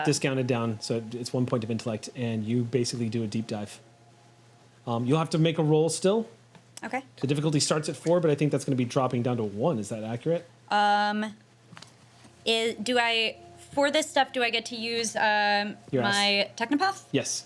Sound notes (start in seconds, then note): none